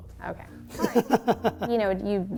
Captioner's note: laughing